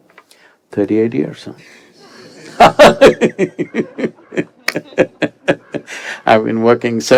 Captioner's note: laughter